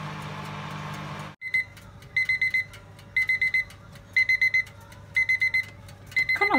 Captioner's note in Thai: เสียงนาฬิกาจับเวลาดัง